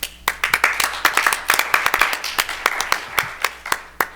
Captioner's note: attendees applaud